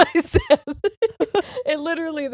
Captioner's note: laughing